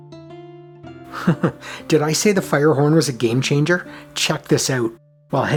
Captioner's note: chuckles